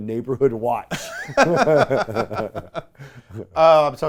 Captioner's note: men laugh